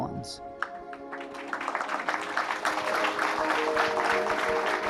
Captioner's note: audience applauds